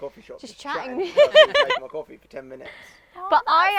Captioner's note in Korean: 웃음